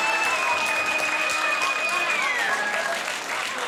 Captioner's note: crowd cheers